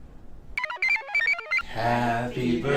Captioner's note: computer chirps